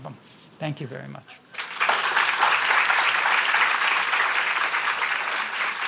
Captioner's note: audience applause